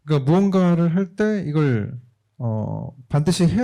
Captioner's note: speaking korean